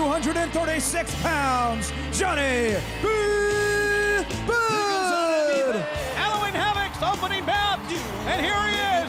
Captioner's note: crowd cheering